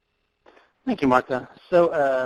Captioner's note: voiceover